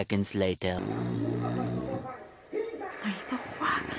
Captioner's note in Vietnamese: Tiếng ba hoặc mẹ chị Giang ngáy